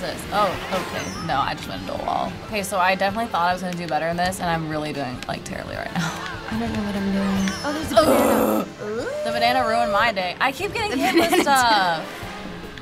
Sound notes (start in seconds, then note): 7.9 groans in frustration